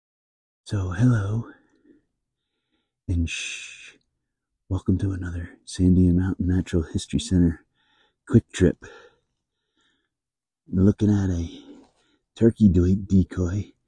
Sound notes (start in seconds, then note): 0.0 whispering